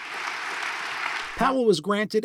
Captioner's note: audience applause